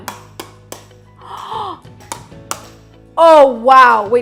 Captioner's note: gasps